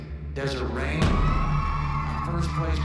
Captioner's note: cheering